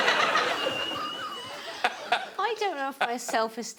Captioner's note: laughter continues